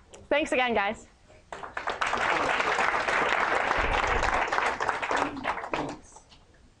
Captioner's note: applause